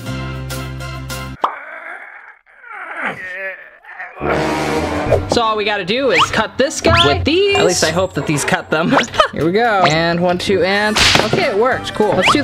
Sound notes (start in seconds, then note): 4.2 horns blowing forebodingly; 7.6 laughing